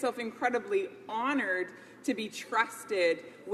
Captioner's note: none